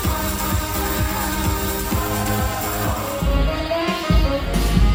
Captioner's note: energetic music; crowd whooping; crowd chattering; upbeat music